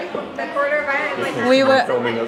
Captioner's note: chatter